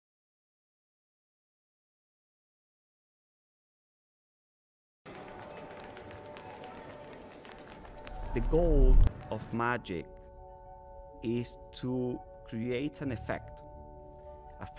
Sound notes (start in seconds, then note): 5.0 relaxing instrumental music; 5.1 people chattering